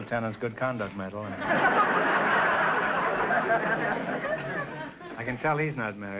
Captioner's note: audience laughter